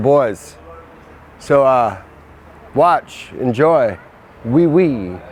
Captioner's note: speaking in foreign language